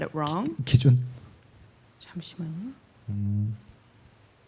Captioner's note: speaking korean